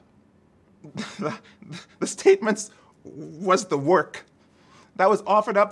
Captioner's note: laughs